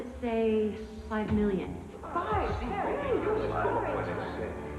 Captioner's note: all gasping